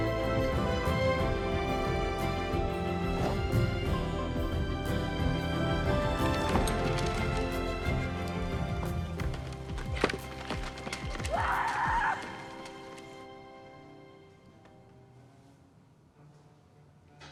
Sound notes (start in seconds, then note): 11.2 yells; 13.3 elegant music